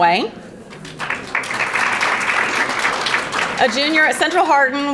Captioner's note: audience applauding